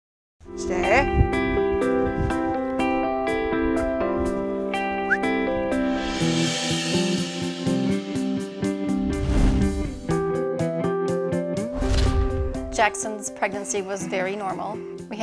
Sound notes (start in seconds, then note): 5.0 whistles; 6.5 thoughtful music